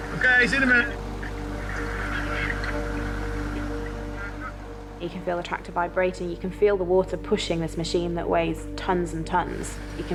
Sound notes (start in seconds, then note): 0.0 tractor droning; 0.0 water whooshing; 1.5 gentle music; 1.5 tractor droning